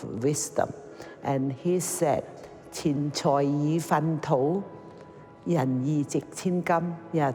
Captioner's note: speaking in foreign language